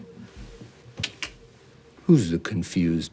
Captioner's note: Ari clicks tongue